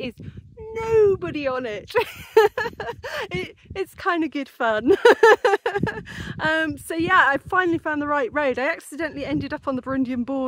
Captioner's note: laughing